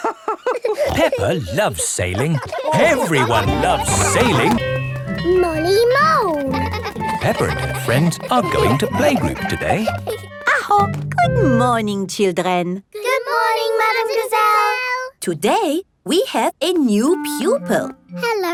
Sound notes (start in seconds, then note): 0.0 both laughing; 5.2 giggling